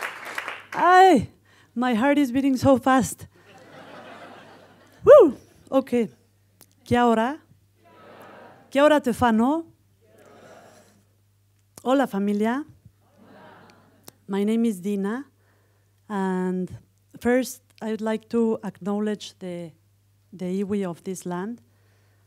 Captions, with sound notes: - Aye, my heart is beating so fast. (audience laughing) Whew, okay! Kia ora, kia ora te whanau, hola familia, My name is Dina. First, I would like to acknowledge the UWI of this land.